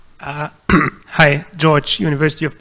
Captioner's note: audience member clears throat